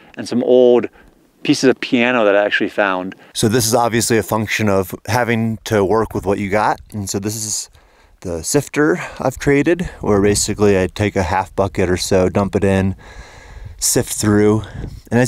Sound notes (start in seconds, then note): none